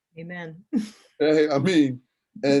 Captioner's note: laughs